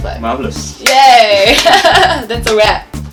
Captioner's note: laughing